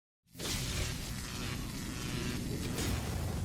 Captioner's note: electricity